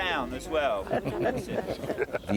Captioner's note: group laughing